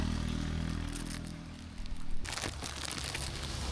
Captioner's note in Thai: เร่งเครื่อง